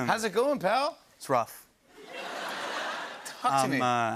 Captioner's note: laughter